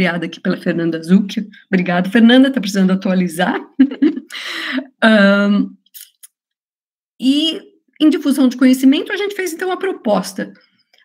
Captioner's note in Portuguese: risos